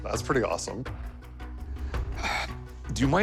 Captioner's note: sighs